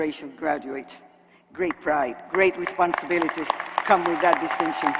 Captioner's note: applause